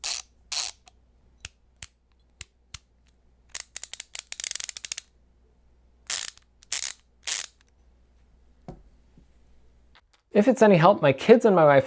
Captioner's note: screwdriver ratchet noises